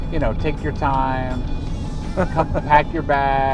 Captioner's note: laughing